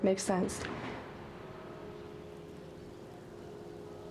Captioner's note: distant church bells